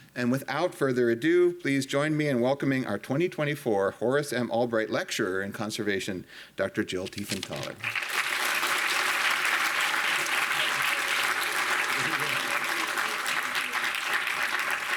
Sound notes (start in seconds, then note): 7.7 audience applauding